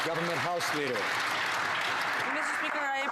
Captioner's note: some Applause